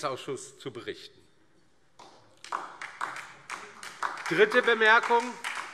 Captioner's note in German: Beifall DIE LINKE und SPD